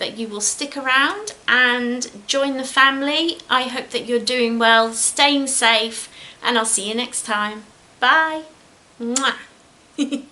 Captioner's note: giggles